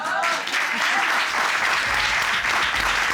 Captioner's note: audience applauding